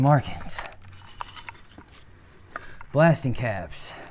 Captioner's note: box clattering